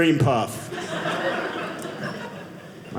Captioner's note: audience laughing